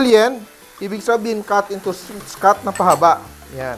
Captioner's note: sizzle